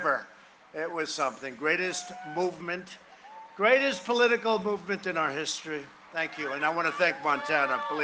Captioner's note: cheering and applause